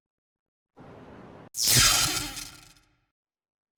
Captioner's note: zap